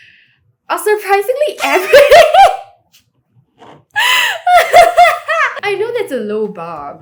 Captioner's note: laughs